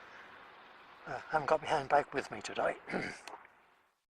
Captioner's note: ahem